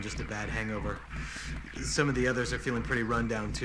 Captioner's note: inhales deeply